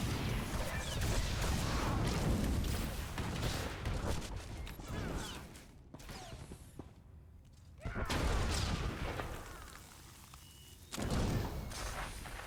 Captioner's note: gunshots